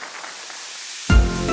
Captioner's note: applause